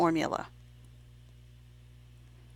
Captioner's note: silent